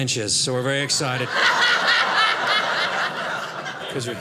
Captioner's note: audience laughing